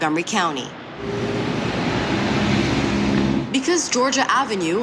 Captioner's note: sound of car engine